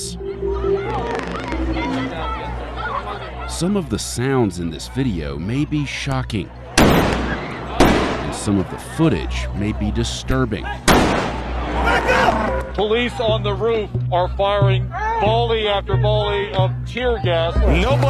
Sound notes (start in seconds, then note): 0.2 people shouting; 7.8 explosion; 10.9 explosion